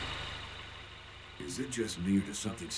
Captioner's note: over comms